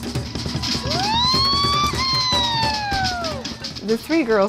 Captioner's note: polynesian drumming; yelling